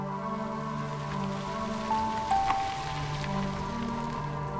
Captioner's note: car engine revving; dramatic music